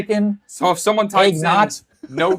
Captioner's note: laughs